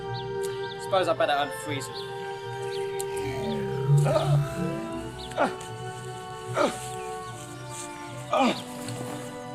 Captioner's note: doctor gasps and groans